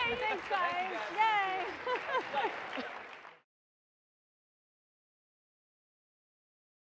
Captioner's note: laughs; audience applauds